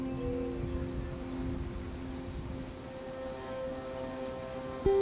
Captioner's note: birds chirping